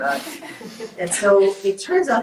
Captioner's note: group laughs